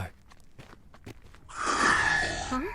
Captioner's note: growl